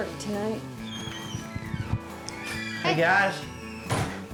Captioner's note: door opening